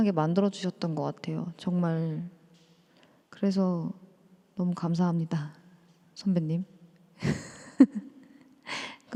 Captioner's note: laughter